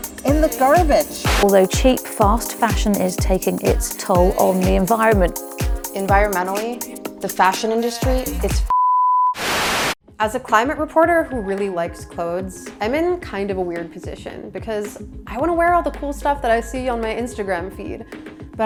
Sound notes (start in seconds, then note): 8.7 beep; 9.3 static noise